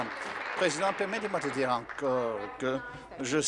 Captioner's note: applause